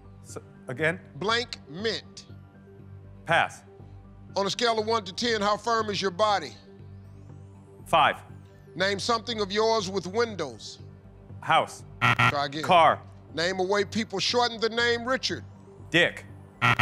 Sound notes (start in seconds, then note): 12.0 buzzer; 16.6 buzzer